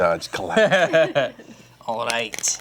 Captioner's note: laughter